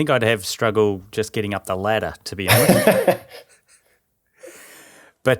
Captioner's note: laughing